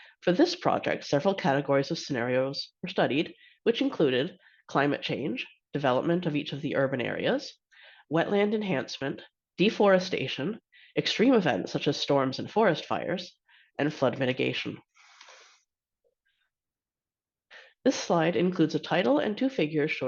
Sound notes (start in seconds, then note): 15.0 breaths heavily